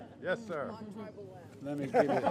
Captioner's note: laughter